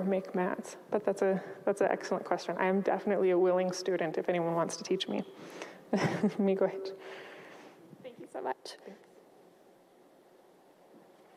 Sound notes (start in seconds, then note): 5.9 speaks in Ojibwa